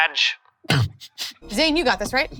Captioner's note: laughs